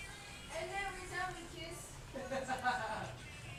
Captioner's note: laugh